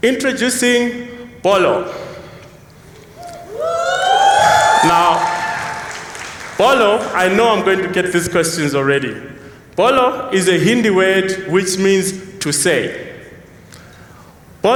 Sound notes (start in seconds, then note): 3.1 cheers